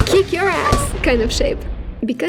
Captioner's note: explosion